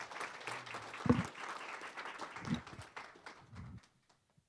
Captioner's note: applause